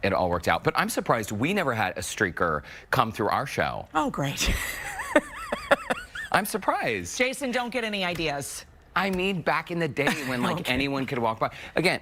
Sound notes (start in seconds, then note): 7.6 laughter